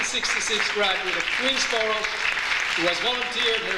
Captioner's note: audience applauds